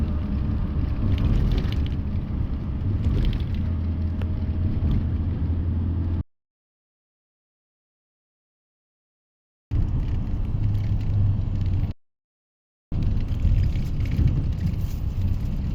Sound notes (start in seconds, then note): 2.3 bus noises